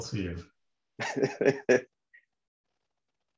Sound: laughs

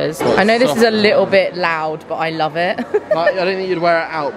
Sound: giggling

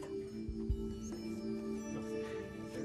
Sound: whispering

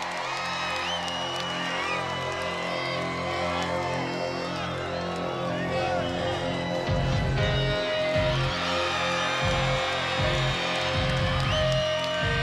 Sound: cheers and applause

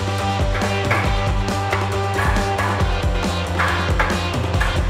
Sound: metal banging

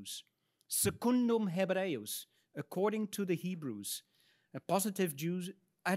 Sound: speaks in Latin

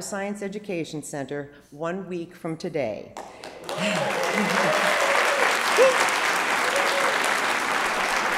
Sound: applause

